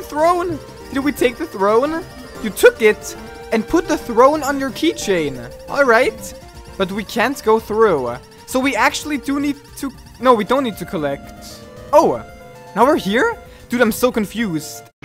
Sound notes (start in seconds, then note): 10.2 elevator sound effect, slowed down